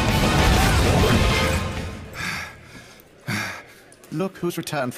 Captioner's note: gasping